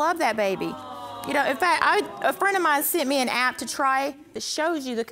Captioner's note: stammering